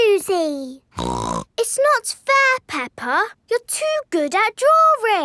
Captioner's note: snorts